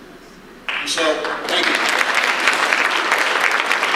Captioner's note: audience applause